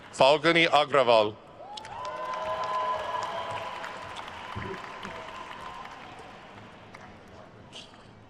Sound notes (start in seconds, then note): 1.6 attendees cheering and applauding